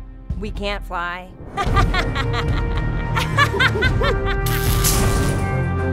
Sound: laughing maniacally; ominous orchestral music

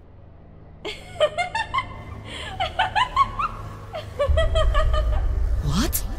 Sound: luna laughs hysterically

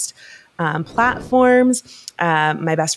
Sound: graphic swooshing

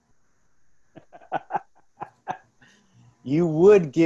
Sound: laughs

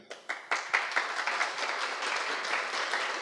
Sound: applause

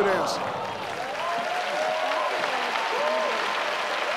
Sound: audience cheer

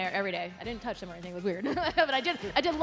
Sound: chuckles

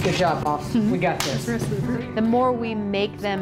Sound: hands slap together

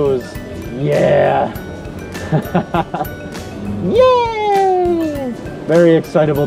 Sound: laughing

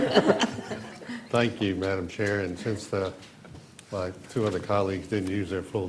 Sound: laughter

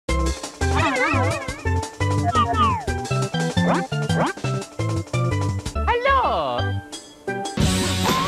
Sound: Mario 64 sound effects and "Hello!"

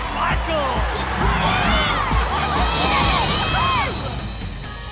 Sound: cheering

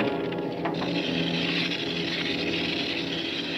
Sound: fuse hissing

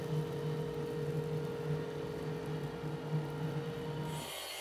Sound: machine whirring

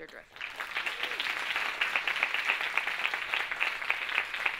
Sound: audience applauding

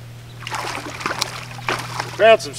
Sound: splash

